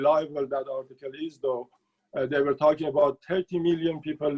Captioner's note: speaking Farsi